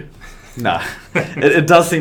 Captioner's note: both chuckle